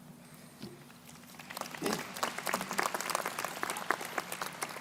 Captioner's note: crowd applauding